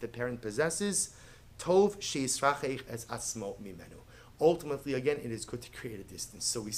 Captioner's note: Hebrew